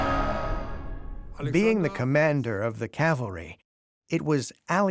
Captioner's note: in German